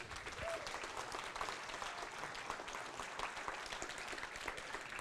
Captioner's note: applause and cheers